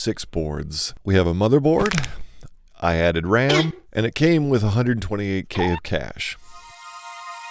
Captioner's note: Crunch; boink